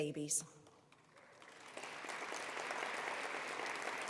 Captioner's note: applause